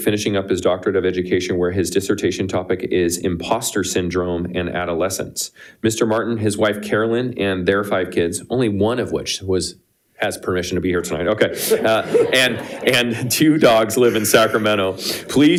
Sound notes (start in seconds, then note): 11.5 everyone laughing